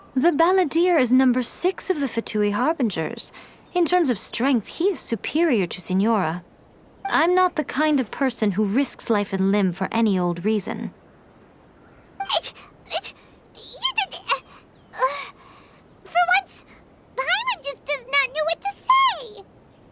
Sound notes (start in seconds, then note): 12.2 stammers